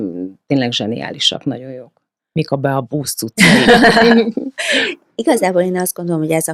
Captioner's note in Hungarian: nevetés